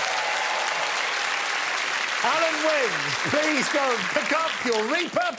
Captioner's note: audience applauding